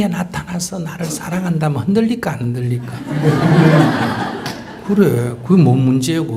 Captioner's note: audience Laughter